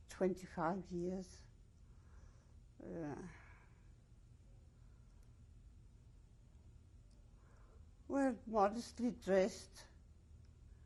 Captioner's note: pauses for 7 seconds